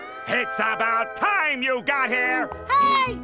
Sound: none

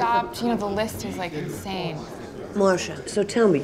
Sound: people chatering

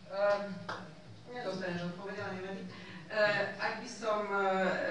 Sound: non-english

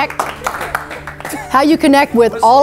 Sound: continued clapping

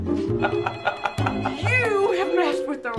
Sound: phone rings

